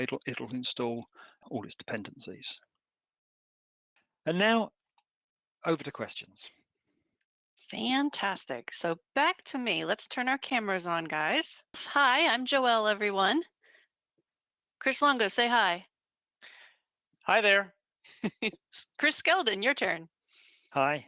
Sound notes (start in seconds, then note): 18.1 laughing